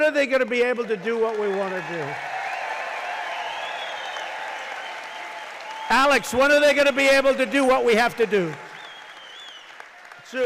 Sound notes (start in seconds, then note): 4.8 applause